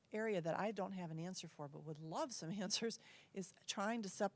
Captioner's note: laugh